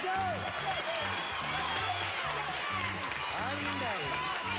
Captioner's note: audience applauding